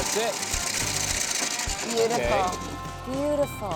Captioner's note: corn rattling in hopper